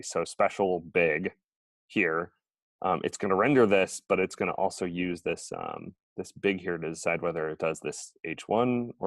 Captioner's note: none